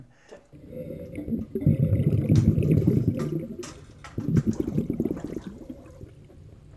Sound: bubbling; silence

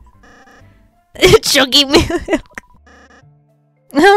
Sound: laughs; laughs

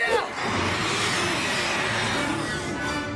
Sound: shrieking

